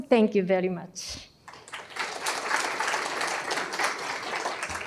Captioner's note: applause